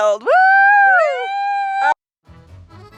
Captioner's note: all cheering; cheerful accordion music